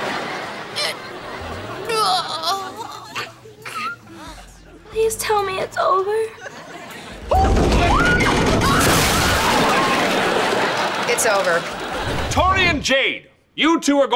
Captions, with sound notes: [groaning] Please tell me it's over. [thudding] It's over. Tori and Jade, you two are going